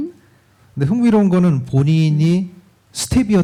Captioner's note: speaking korean